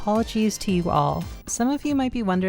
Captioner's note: remote click